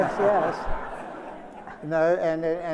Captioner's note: laughter